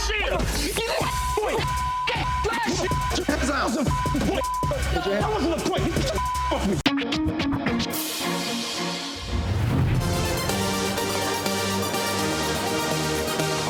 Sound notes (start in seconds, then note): 1.1 beep; 11.0 upbeat music